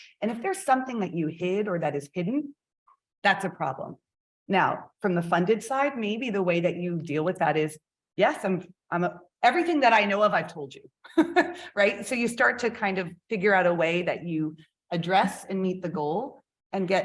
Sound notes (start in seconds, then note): 11.0 chuckles